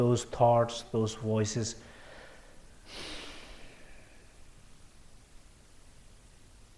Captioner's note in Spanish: exhalación profunda